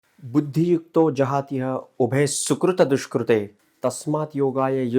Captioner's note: speaking in foreign language